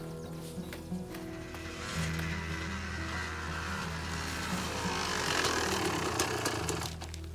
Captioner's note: gentle music; bike whirring